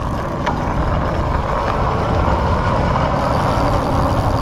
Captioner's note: bicycle clinking